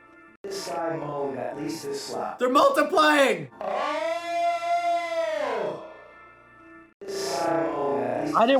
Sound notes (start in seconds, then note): 4.1 man moaning loudly, layered